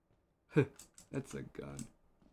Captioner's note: chuckle